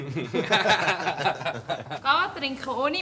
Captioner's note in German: lacht